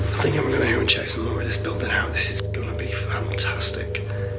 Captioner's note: murmuring